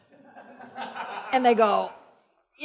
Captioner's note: audience laughs